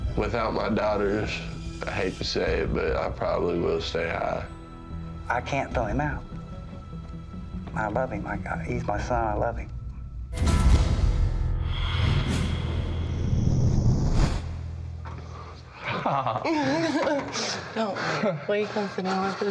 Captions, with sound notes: Without my daughters, I hate to say it, but I probably will stay high. I can't throw him out. I love him. He's my son. I love him. No! [laughter]